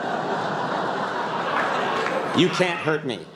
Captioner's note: laughter